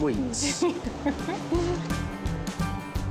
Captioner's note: giggling